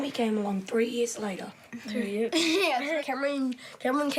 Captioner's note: laughs